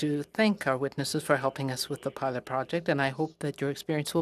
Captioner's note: speaking French